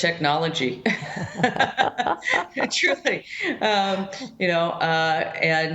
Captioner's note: laughs